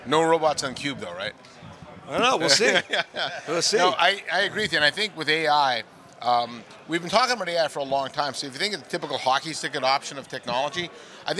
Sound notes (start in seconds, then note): 2.5 laughing